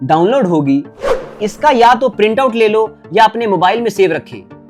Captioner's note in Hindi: नाक से की जाने वाली आवाज़